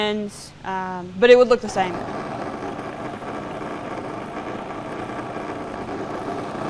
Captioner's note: food processor whirring